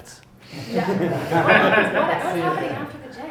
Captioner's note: group laughs